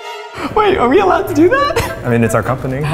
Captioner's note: giggles